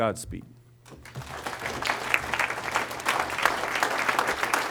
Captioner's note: applause